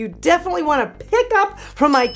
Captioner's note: bell rings